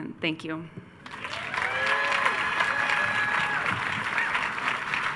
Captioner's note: attendees cheering